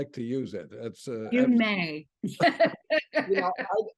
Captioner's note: laughs